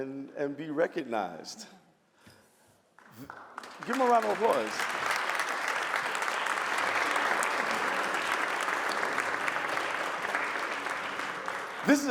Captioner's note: applause